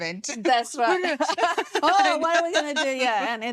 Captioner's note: laughing